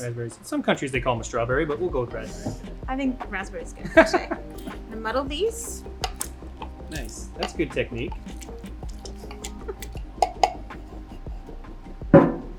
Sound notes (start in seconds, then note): 4.2 laughs; 5.7 ingredients squish; 10.3 muddler taps; 12.3 muddler clangs